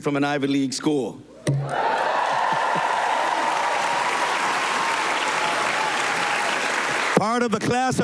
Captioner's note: cheers and applause